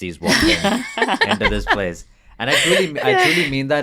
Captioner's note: interviewees laugh